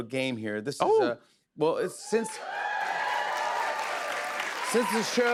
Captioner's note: cheers and applause